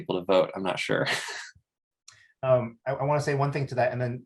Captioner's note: chuckles